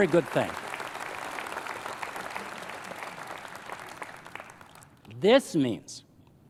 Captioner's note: applause